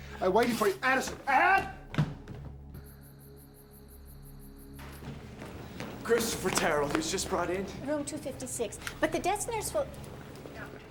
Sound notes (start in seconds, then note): 1.5 feet clomping; 2.6 insects chittering; 4.9 feet clomping; 10.0 footsteps pattering